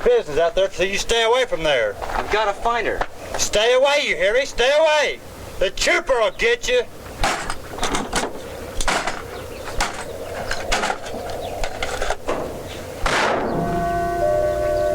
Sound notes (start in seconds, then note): 7.1 wind howling; 8.7 tools clanking; 13.0 car hood thudding